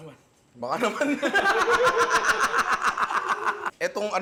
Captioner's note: laughter